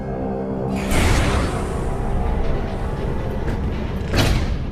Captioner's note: doors clanking